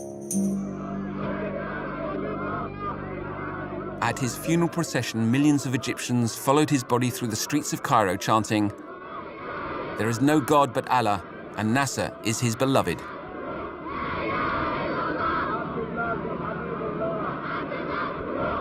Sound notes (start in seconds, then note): 0.7 Arabic spoken audio